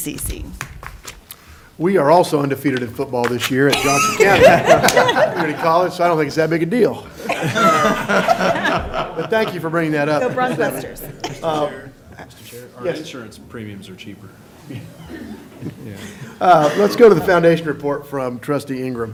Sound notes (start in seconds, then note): 8.7 laughter